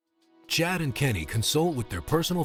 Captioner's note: voiceover